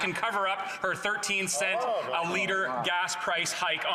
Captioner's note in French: voix de l'interprète